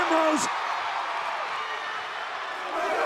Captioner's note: applause